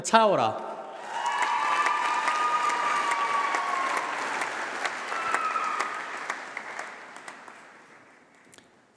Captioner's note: applause